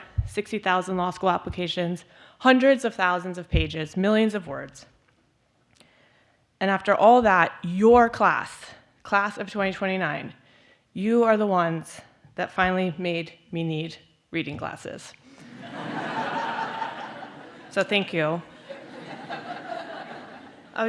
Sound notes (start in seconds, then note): 15.4 laughter